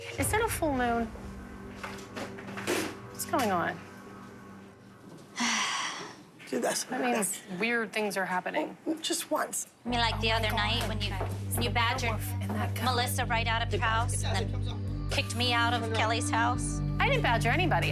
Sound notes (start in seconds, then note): none